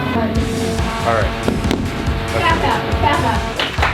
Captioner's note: robots continue whirring; robots thudding; glass tapping